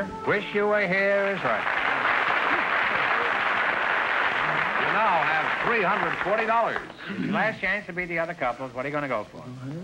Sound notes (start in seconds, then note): 1.0 applause